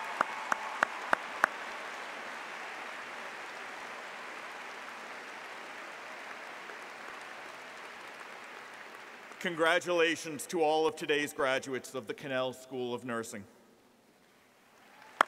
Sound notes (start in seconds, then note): 2.9 applause